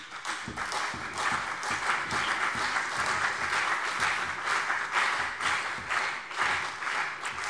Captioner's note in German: Beifall CDU und BÜNDNIS 90/DIE GRÜNEN